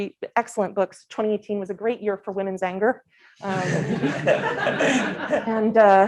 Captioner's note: laughter